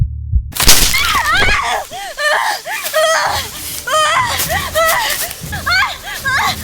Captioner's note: branch snapping; Martha screaming